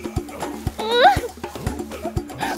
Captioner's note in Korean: 끙차